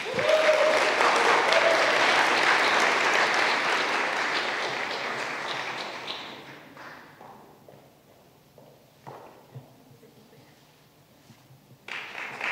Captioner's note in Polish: oklaski